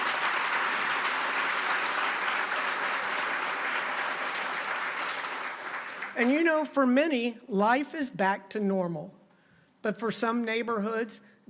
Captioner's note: applause